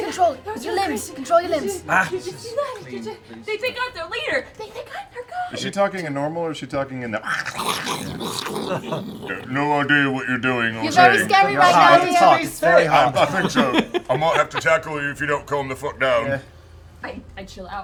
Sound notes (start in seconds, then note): 7.4 flickering flames